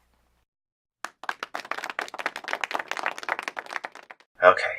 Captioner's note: half-Hearted Clapping